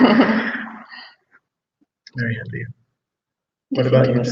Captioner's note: all laughing